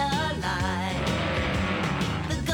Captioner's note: vroom